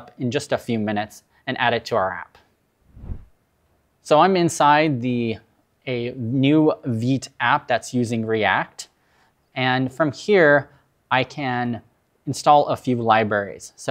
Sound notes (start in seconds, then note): 2.8 screen whooshes